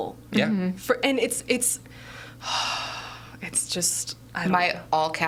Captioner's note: sighing